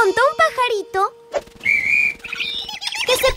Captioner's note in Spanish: Sonido de pájaro